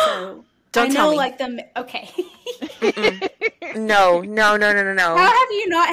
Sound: gasps; laughter

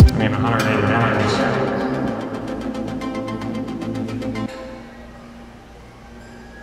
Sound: echoes

